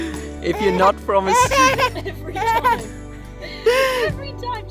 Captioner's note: laughs